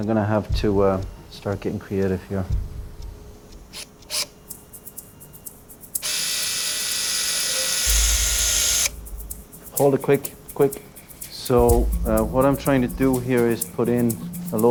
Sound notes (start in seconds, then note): 6.0 drill whirring